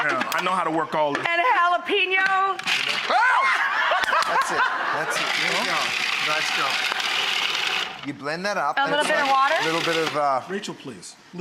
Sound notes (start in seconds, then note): 3.0 laughing; 3.1 screams